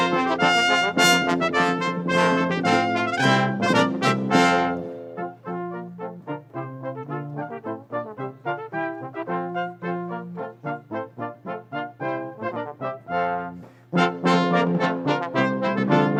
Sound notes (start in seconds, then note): none